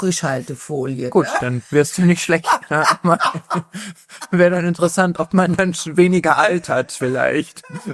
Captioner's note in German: gelächter